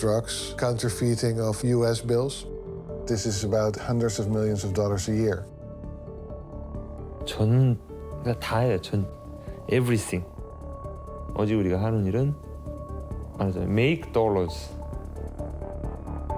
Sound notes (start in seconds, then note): 7.4 speaking Korean